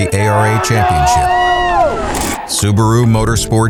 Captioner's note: cheering